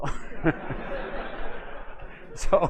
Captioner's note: laughter